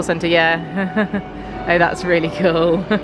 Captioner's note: chuckles